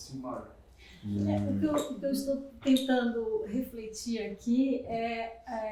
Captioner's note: speaking portuguese